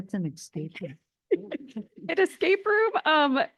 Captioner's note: laughing